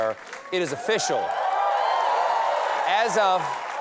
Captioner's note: cheers and applause